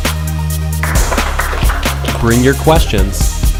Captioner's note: audience applauds